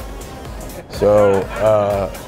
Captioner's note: crowd chuckles